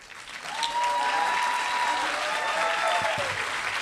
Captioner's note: applause